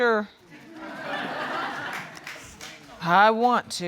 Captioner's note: audience laughing